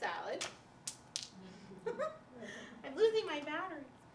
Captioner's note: laughing